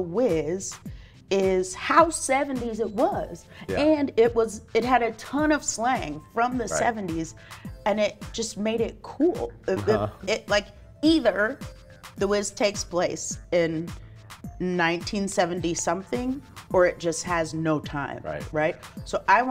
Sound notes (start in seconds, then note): 9.7 laughs